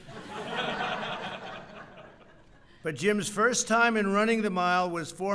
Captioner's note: laughter